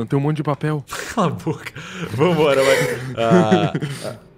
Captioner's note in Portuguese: riso